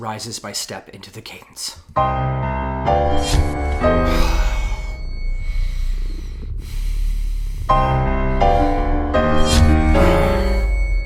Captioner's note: heavy breathing. Frustrated noises